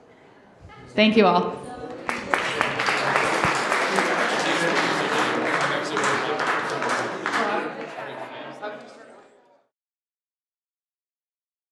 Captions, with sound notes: Thank you all. [applauding] [chattering]